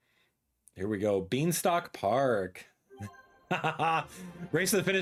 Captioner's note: laughs